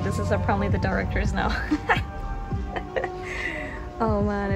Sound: laugh

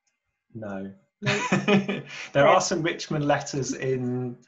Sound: laughs

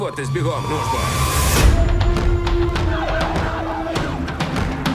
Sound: dramatic music playing; siren wailing; woman screaming

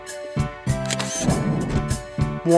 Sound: SFX: Camera Shutter

